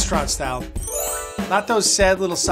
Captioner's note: chimes ring